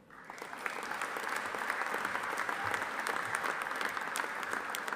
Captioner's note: audience applauding